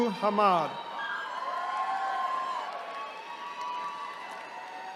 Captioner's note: attendees cheering